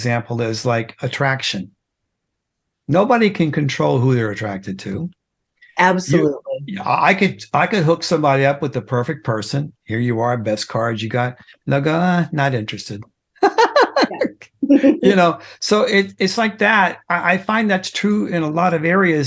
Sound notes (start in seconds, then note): 13.4 laughing